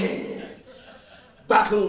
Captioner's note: laughs